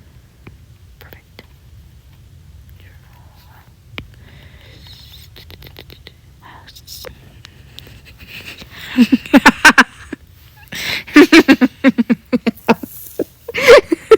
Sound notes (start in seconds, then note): 1.9 clicking; 3.0 maniacal laughter